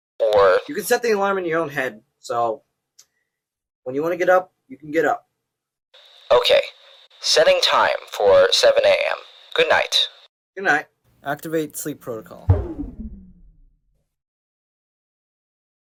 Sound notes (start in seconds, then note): 12.4 shut down sound